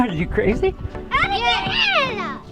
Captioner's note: laughing